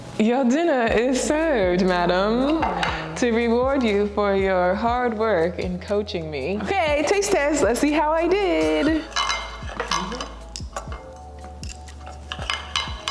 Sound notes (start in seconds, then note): 9.4 utensils clanking